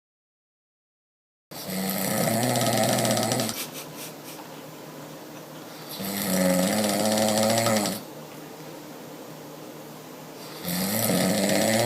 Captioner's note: snoring